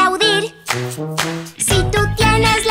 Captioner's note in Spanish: Aplausos